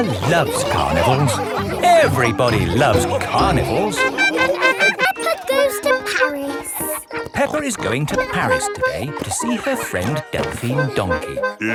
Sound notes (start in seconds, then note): 4.4 laughing